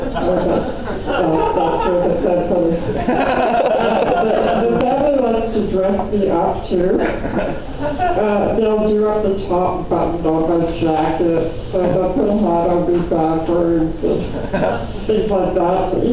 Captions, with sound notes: I guess the story wasn’t that funny. [laughter] The family likes to dress me up too. They’ll do up the top button on my jacket. They’ll put the hat on backwards.